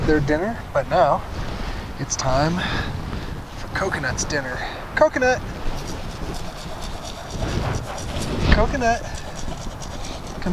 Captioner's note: grain rattling in bucket